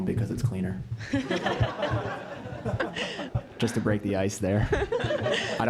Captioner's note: laugh